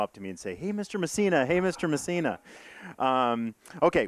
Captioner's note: audience laughing